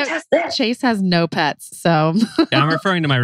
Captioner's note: laughs